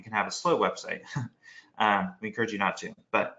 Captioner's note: chuckles